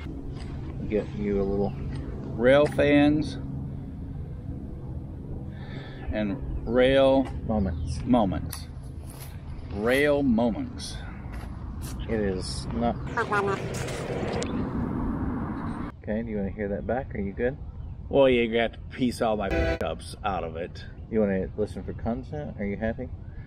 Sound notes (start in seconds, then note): 13.2 fast forward sound; 19.5 train horn